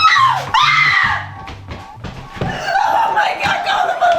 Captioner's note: screaming